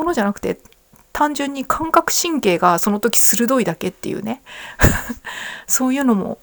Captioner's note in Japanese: 笑い